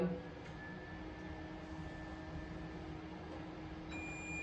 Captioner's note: machine whirring; machine beeping